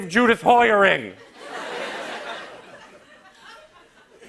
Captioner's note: laughter